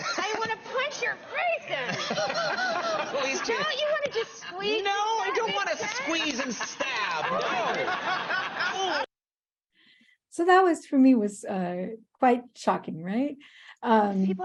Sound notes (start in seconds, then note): 1.7 all chuckling; 8.1 audience chuckling